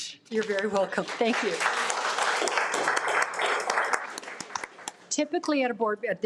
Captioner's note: audience applauding